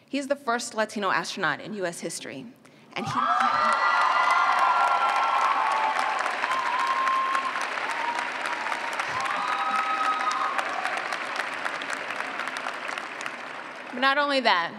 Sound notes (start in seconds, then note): 3.0 cheers and clapping